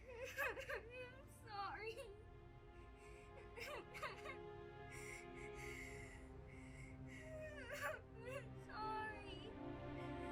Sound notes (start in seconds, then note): 0.1 crying; 3.5 Olive crying